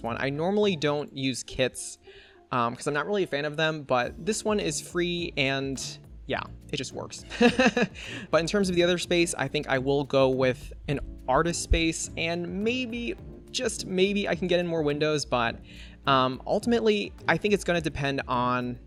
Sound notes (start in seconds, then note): 7.3 laughs